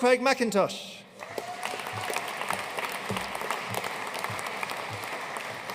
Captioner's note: audience cheering and applauding